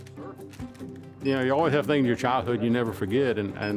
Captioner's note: scanner beeping